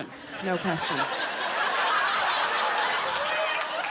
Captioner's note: laughter